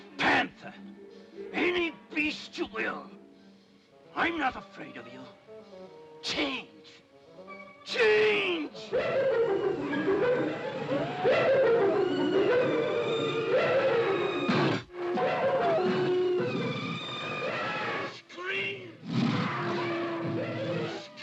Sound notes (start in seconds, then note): 8.8 monkey whoops; 10.7 cacophony of animal noises; 19.0 cacophony of animal noises